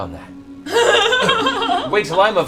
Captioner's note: laughs